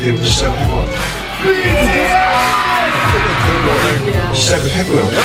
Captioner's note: cheering